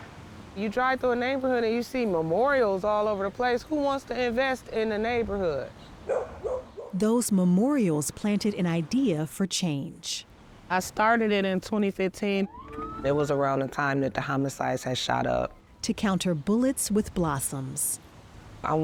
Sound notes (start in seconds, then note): 6.0 dog barking; 12.4 police sirens